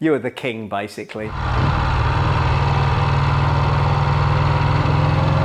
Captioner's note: motorcycle engine sound